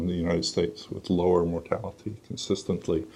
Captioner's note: none